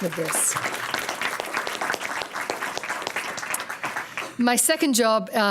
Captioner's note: applause